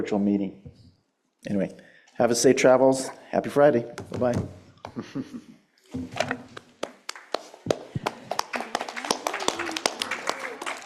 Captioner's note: applause